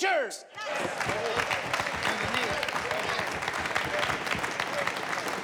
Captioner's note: people clapping